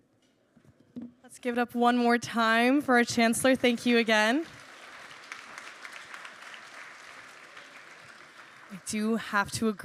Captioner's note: applause